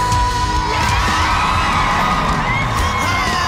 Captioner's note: cheers and applause